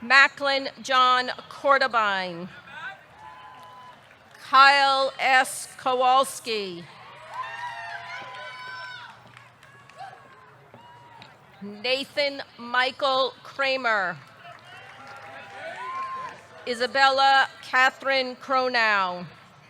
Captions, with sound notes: Macklin John Kortebein. (audience cheering) Kyle S. Kowalski. (audience cheering) (audience clapping) Nathan Michael Kramer. (audience cheering) (audience clapping) Isabella Katherine Kronau.